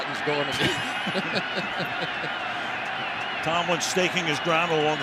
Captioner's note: chuckles